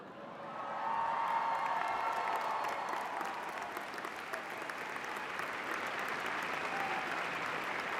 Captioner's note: cheers and applause